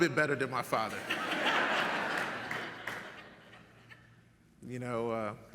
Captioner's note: audience laughs